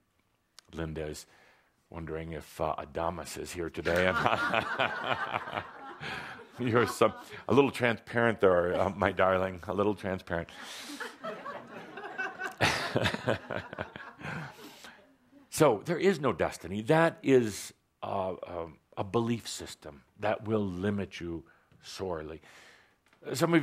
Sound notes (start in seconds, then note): 3.9 laughs; 12.8 laughter